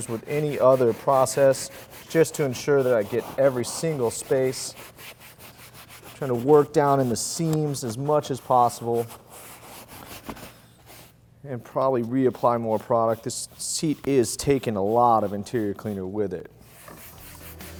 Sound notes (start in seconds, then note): 10.0 brush strokes; 17.2 upbeat music